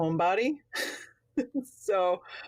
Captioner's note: laughs